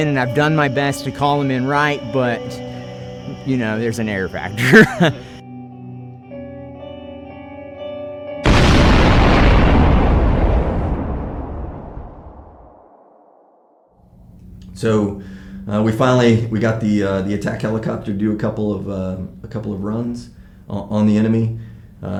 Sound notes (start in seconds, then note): 4.5 chuckles; 5.3 solemn music; 8.4 explosion booming